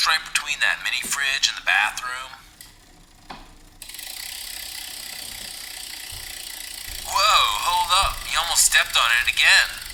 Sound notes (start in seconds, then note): 4.4 bicycle wheel spinning